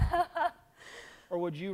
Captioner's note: laughs